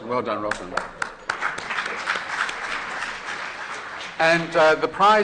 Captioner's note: applause